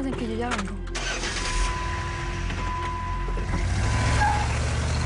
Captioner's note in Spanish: Ruido del auto